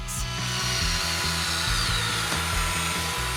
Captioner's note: screwing